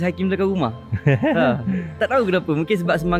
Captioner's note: laugh